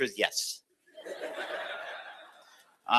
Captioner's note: laughter